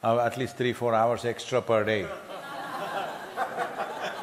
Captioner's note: laughter